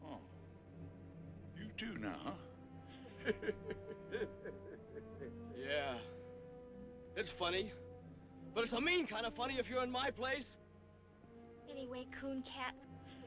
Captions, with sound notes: - Huh. You, too, now, huh? (laughing) - Yeah. It's funny. But it's a mean kind of funny if you're in my place. - Anyway Cooncat.